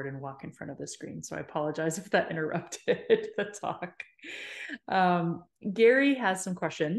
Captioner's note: chuckles